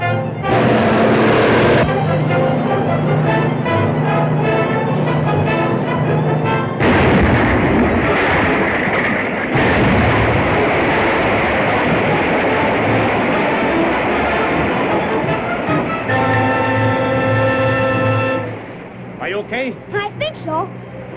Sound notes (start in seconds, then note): 0.4 truck accelerates; 6.4 explosion; 15.0 suspenseful music